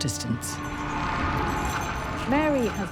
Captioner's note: boisterous sounds